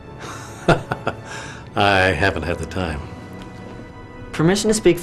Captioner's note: laughing